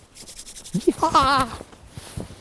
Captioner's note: hands whooshing